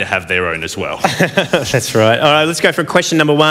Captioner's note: laughs